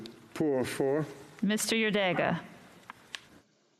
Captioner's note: speaking French